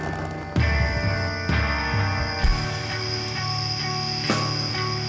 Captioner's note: crickets chirping; tense rock music